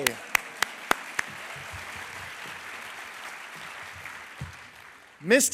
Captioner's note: applause